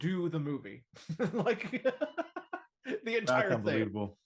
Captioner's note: laughs